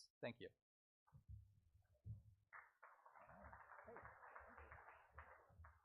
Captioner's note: audience applauds